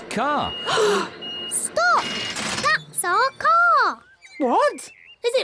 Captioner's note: all gasp